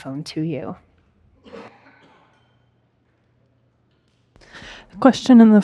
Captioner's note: audience member coughing